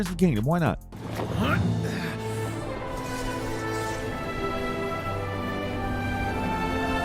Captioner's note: heroic music; Kliff grunts